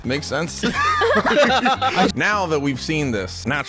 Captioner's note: everyone laughing